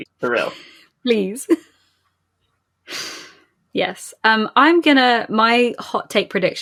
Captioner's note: laughing